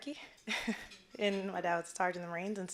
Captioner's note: chuckling